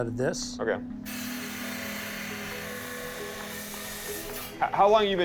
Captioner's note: machine whirring